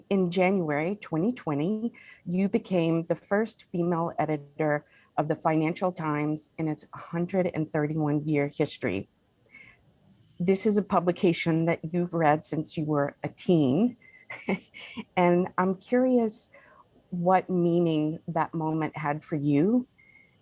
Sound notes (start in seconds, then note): 14.3 chuckles